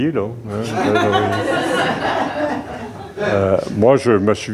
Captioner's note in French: rires